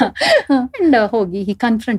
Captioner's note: laughing